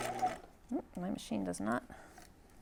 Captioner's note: sewing machine whirring